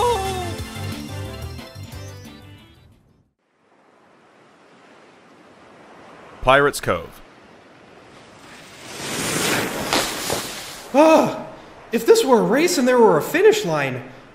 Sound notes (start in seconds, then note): 0.3 music fades out; 4.3 beach ambiance; 8.0 snowboard whizzing by and stopping